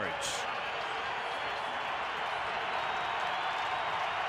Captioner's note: crowd cheering